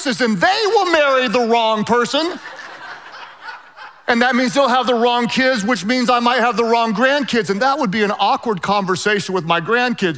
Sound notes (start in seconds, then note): 2.4 laughing quietly